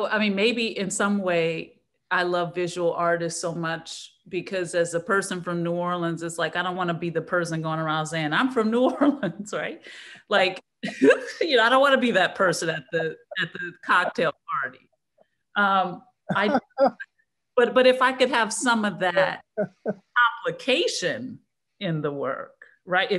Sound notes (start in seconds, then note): 16.3 men laughing